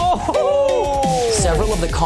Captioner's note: gasping